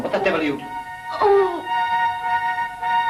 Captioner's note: groan